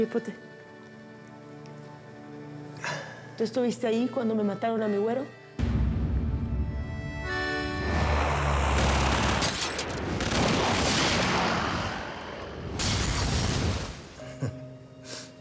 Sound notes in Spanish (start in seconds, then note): 10.5 Disparos; 12.1 Explosión